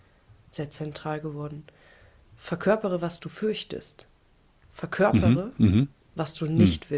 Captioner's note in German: räuspern